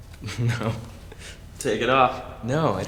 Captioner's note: laughing